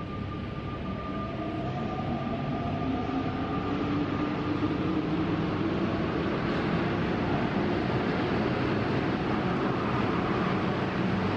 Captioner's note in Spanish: Sonido del metro, con cambio de vías en Línea 5